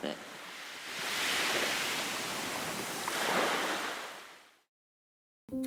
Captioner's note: waves and splashing; cheerful upbeat music